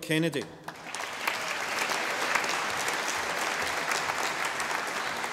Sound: audience applauding

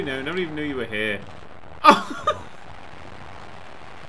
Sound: laughing

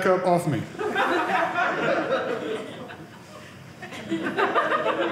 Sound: audience laughing

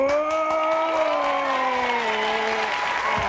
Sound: Santa grunting; audience cheering and applauding

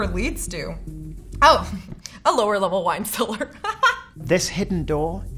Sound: laughs

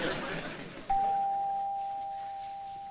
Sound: doorbell rings

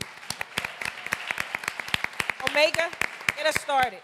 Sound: applause

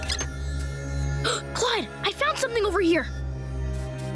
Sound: gasping

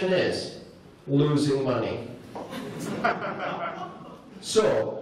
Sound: laughter

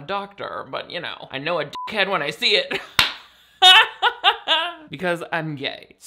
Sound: laughs

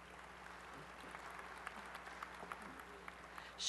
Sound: applause

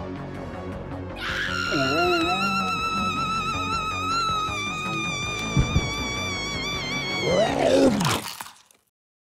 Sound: scream

